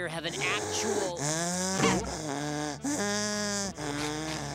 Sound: loud wheezing

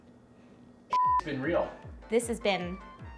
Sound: beep

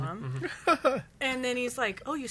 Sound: laughs

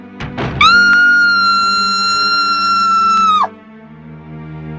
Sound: Rebecca's Final Scream Before Her Death

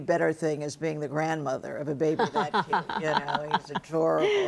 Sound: Misty laughs

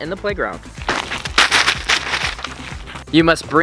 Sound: paper rattling

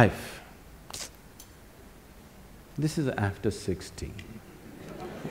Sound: laughter

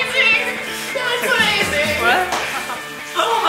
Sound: laughing

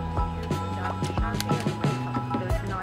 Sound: lips pop; lipstick snaps; bubbly jazz music continues

